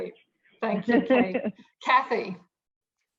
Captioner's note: laughs